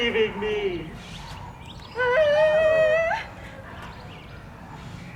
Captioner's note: whimpering